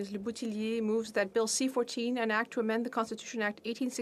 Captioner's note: speaking French